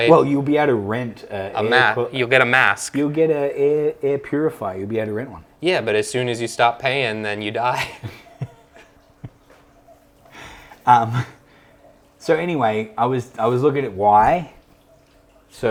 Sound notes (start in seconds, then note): 10.3 laughs